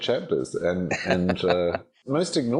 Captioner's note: laughing